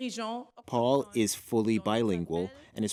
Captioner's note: speaking French